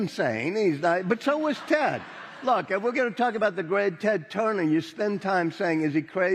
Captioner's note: laughing